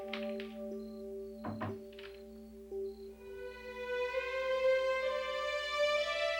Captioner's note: door creaking; door thuds